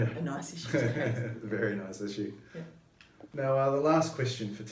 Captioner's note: laughs